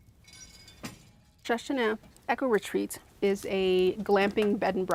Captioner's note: rattling